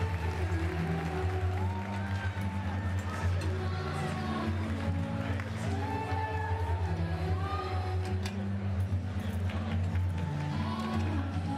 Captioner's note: applause